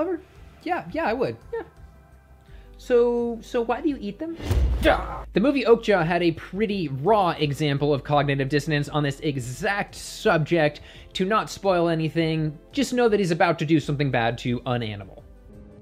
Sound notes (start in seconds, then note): 4.4 responds with angry noise